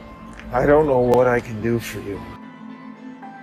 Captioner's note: voiceover